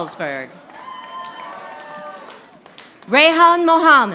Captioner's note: audience applauding